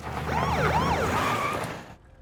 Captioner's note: siren